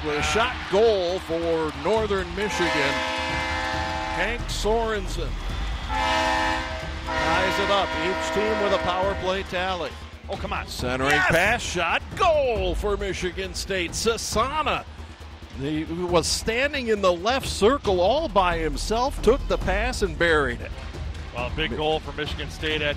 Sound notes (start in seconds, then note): 2.3 foghorn blares